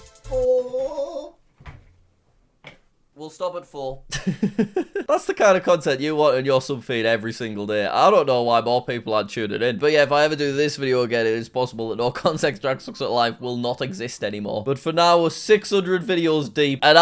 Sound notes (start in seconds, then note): 0.0 upbeat music; 4.1 laughs